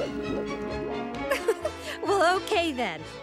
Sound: laughing

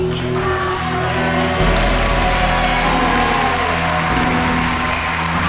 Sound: audience applauding and cheering

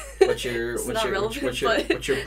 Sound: chuckles

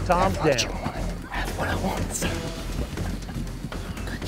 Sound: whispering

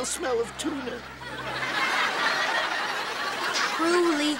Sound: audience laughs

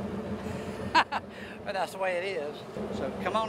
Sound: laughing

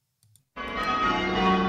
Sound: bells ringing call changes

